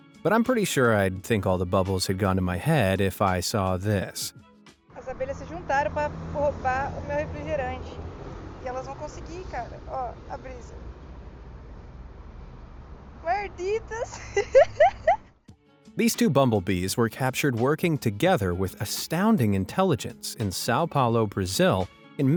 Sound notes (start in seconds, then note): 4.9 speaking foreign language